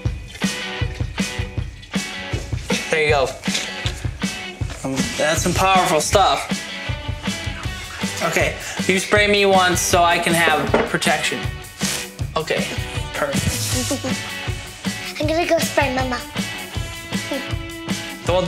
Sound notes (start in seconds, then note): 11.8 bottle sprays; 13.4 laughs